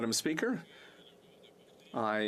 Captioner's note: speaking French